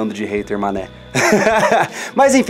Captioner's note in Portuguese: Risadas